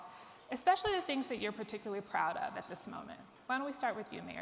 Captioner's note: none